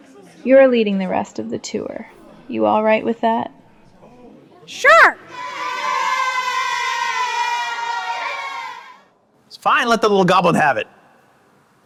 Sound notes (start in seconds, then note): 4.8 kids cheering